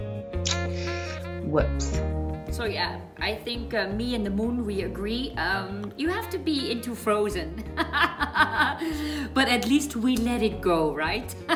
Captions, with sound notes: Whoops. - So yeah, I think me and the moon we agree you have to be into "Frozen". (laughs) but at least we let it go, right?